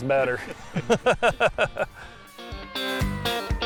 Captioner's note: laughing; upbeat guitar music